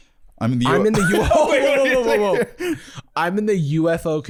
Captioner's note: laughing